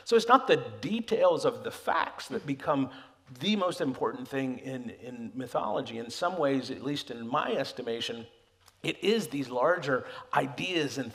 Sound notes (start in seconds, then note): none